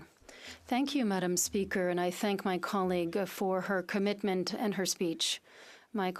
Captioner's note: speaking French